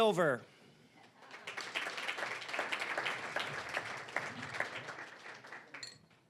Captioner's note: applause